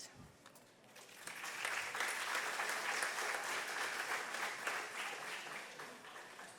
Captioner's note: audience applause